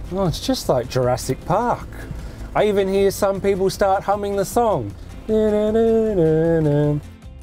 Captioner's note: humming sounds